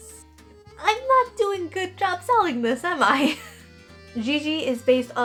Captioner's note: laughing